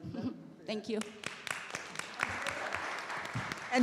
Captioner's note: audience applauding